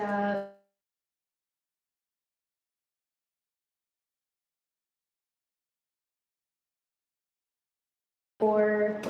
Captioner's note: audio cuts